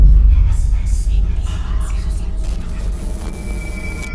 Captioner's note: spooky whispering